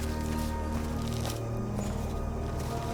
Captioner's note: footsteps